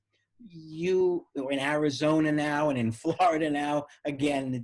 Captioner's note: giggles